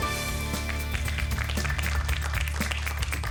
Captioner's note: applause